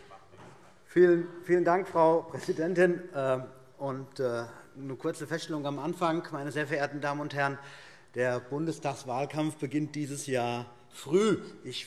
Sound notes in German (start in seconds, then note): none